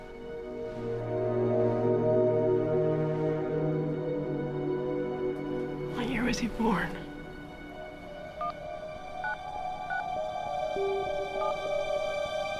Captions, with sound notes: WHAT YEAR WAS HE BORN? [BEEPING]